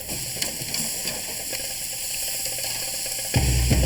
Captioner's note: meat sizzling